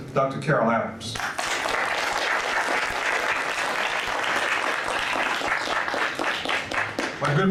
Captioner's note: audience applauds